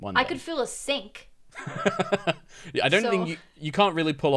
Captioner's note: laughs